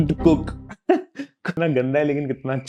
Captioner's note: laughing